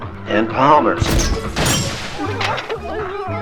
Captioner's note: small explosion noises